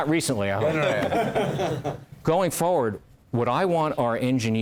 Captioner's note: laugh